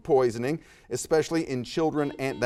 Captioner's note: buzzer beeps